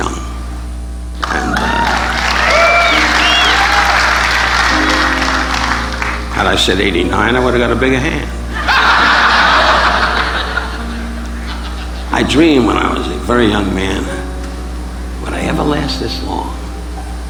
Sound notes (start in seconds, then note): 1.2 audience applauding; 8.4 audience laughing